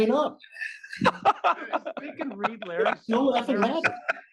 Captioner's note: laugh